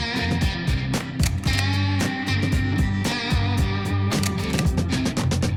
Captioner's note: slide reel continues clicking